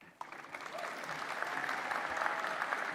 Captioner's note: applause